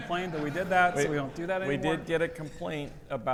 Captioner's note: audience laughs